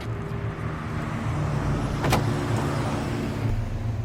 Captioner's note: car passing